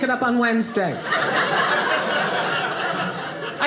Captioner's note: audience laughing